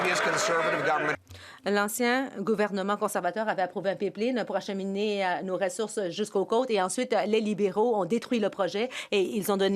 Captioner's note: some Applause